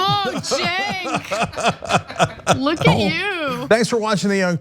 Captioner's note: laugh